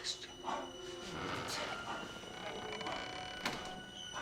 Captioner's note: quiet whispering